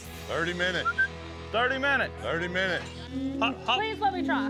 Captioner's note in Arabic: صافرة